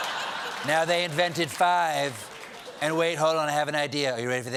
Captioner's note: laughter